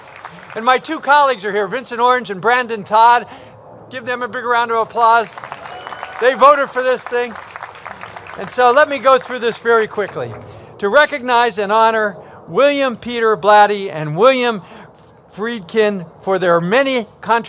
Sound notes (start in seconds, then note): 0.0 applause; 5.2 applause